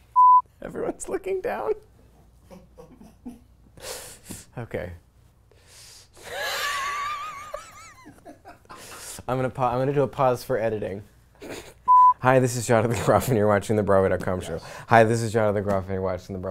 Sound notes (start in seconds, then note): 5.5 wheezes